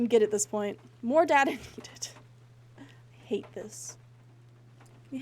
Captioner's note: distressed Laughter